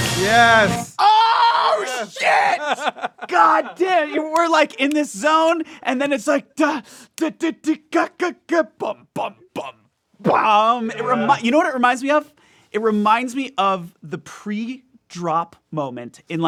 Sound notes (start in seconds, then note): 2.2 laughs